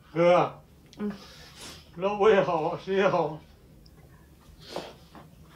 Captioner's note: speaks in Chinese language